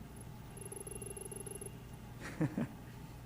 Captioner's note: text beeping; laughing